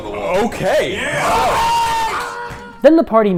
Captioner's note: cheering